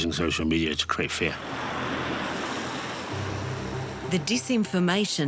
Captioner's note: traffic rumbles